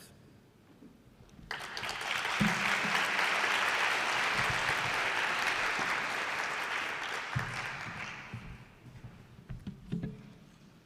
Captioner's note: applause